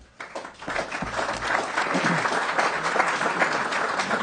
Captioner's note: applause